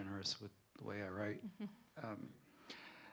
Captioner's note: laughter